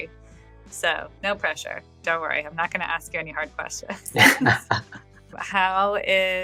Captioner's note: <Laugh>